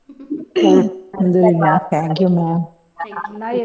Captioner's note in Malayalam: തൊണ്ട ശരിയാക്കുന്നു